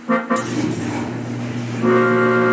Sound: garage door opens dramatically

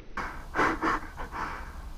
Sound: evil chuckle

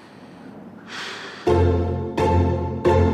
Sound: sighs; upbeat music

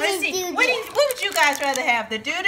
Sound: voiceover

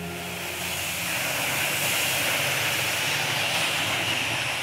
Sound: engine rumbling

